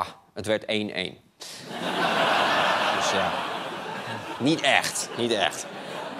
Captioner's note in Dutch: gelach